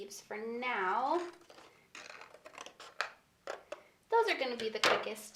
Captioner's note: scissors snipping